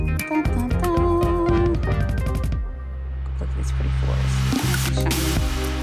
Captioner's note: speaker humming